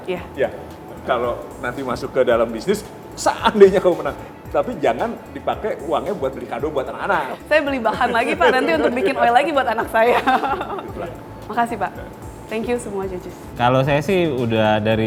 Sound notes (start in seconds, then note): 7.8 laughs